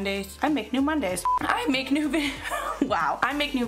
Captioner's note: laughs